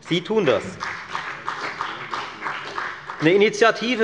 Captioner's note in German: Beifall bei der FDP und bei Abgeordneten der SPD